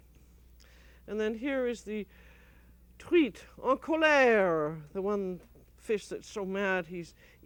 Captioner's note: speaking french